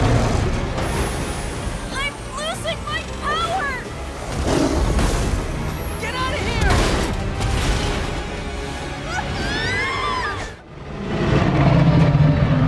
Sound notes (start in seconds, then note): 9.0 screaming; 10.3 roaring